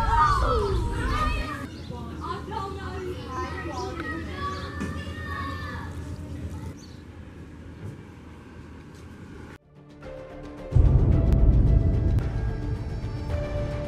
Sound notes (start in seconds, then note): 0.0 children playing; 10.7 thunderstorm